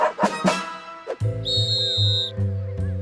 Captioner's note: whistle blows